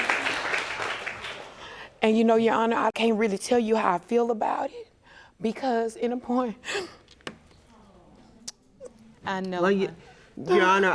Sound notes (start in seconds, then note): 6.5 sobbing